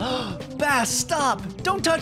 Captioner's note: gasp!